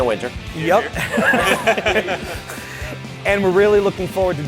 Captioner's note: laughter